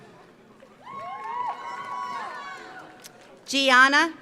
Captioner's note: audience applauds; audience cheers